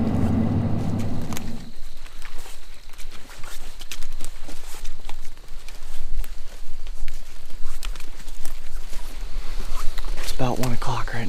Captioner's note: walking / leaves crunching